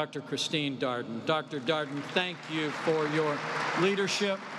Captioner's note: applause